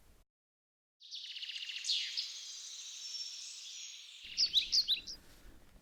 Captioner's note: birds singing